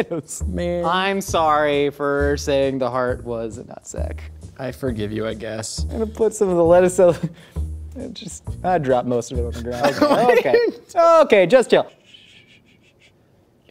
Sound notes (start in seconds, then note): 9.6 laughs